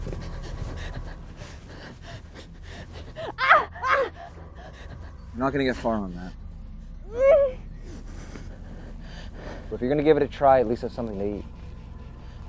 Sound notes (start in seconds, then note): 3.3 Andrea screams; 7.1 Andrea groans